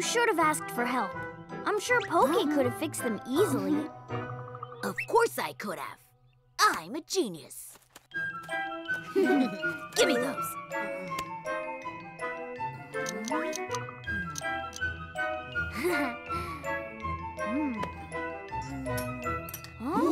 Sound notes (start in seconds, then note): 9.1 giggles; 15.5 Hogi chuckles